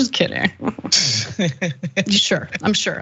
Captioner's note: laugh